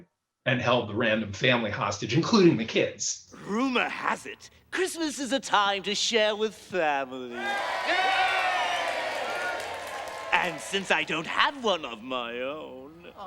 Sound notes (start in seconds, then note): 7.3 crowd cheers & applauds